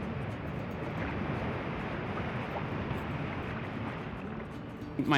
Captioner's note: wave roaring